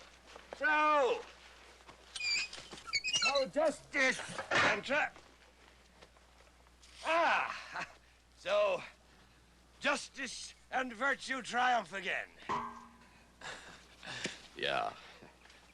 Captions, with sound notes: SO... ( armor squeaking ) SO JUSTICE AND TR.. AH! SO... JUSTICE AND VIRTUE TRIUMPH AGAIN. ( armor clanks ) YEAH.